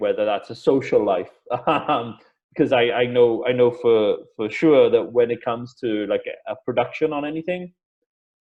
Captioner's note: laughs